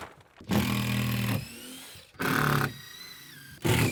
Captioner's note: drill whirring